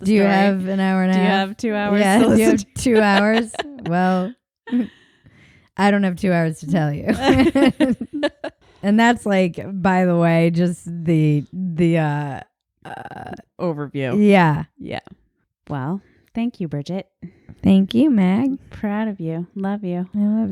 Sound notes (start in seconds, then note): 1.8 laughs; 7.1 both laughing